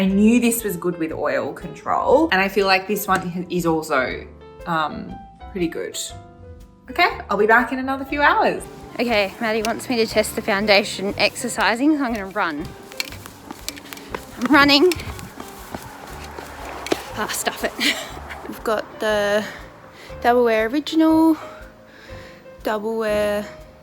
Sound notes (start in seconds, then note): 15.6 footsteps thudding; 17.5 laughs